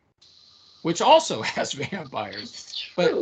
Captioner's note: laughing